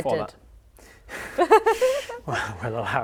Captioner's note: laughs